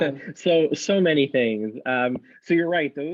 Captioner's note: laughs